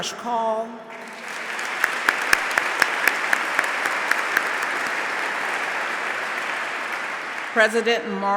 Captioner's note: applause